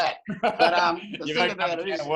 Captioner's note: laughing